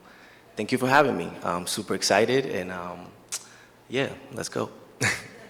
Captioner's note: chuckles